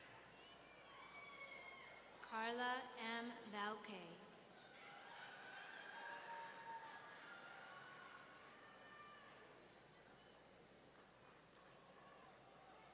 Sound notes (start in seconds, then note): 5.3 audience cheering